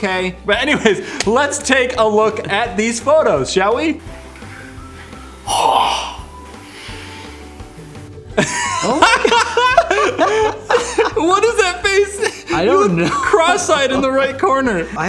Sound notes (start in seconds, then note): 8.4 wheeze; 12.1 snrk